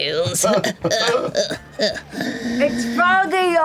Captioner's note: cackling